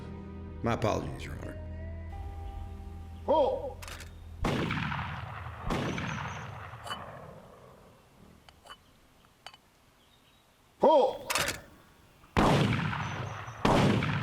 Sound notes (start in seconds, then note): 4.4 gunshots fired; 6.8 clanking sounds; 11.0 clicking sound; 12.3 gunshots fired